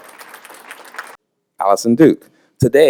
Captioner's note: applause